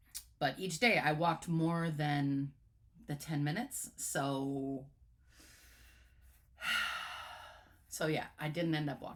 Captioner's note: sigh